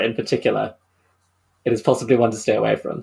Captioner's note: none